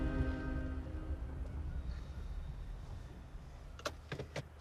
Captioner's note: car engine revving